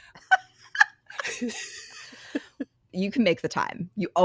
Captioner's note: both Laughing